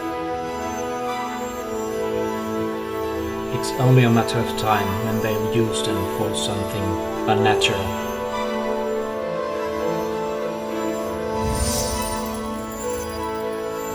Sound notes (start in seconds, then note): 3.6 echoing voice